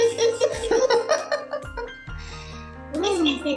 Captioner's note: laugh